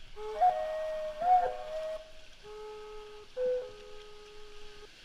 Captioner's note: haunting music; water hissing